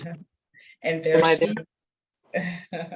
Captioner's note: laughs